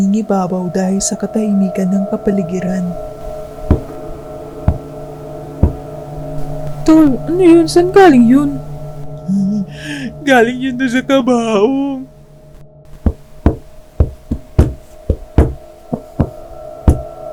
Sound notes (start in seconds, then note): 3.7 knock knock knock; 12.9 knocks wildly